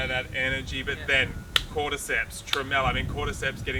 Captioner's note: claps